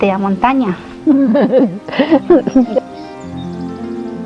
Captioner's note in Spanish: Risas